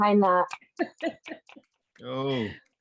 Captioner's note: laughter